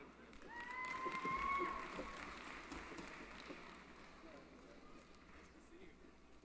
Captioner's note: applause